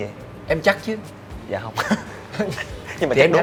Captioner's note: laugh